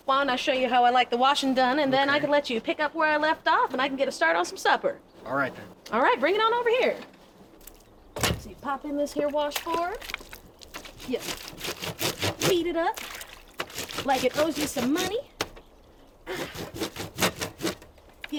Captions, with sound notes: - Why don't I show you how I like the washing done and then I can let you pick up where I left off. And I can get a start on some supper. - All right then. - All right. Bring it on over here. So you pop in this here washboard, yep. (clothes grating) Feed it up. Like it owes you some money. (clothes grating)